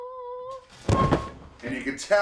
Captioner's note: singing; body thuds